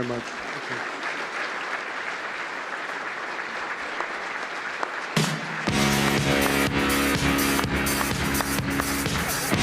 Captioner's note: applause